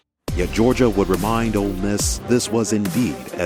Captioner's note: voiceover